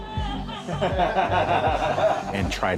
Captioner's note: laughter